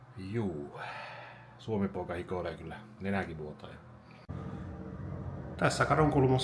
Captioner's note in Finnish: huokaus